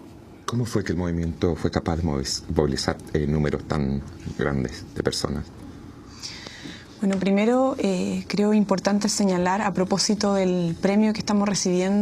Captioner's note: question and answer in Spanish